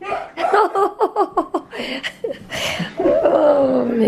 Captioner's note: laughter